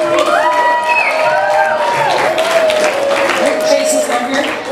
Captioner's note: audience applause